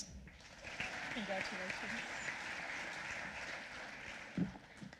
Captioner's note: applause